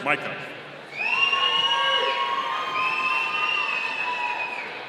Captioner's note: audience cheering